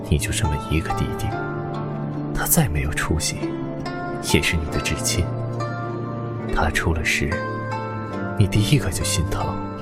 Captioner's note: none